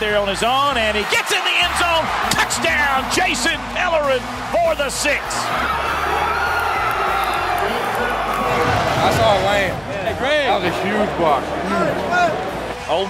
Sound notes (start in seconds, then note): 6.6 cheering